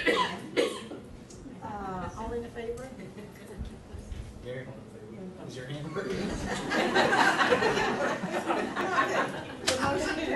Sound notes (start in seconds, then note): 0.0 coughing drowns out speaker; 6.4 laughing